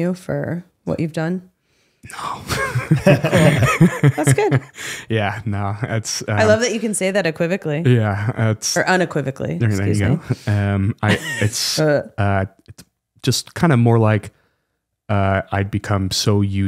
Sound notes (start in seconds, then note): 2.2 both laughing